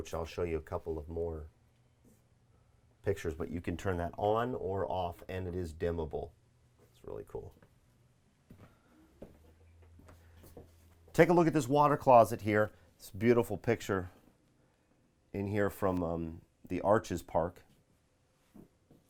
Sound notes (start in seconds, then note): 9.1 footsteps clicking